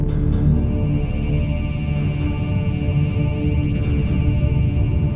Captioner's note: ship scanner whirring